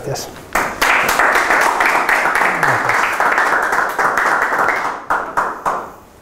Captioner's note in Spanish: aplausos